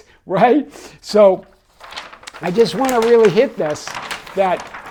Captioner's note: page turning